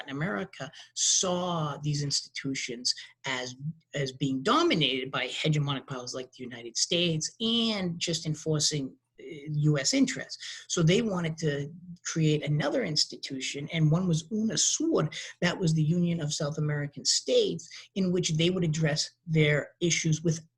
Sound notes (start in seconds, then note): 13.9 speaking in a foreign language